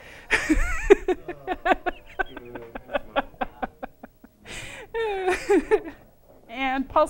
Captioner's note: laughter